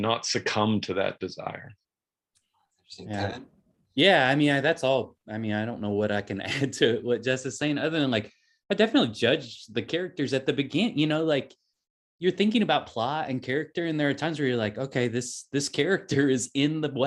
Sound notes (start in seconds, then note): 6.8 chuckles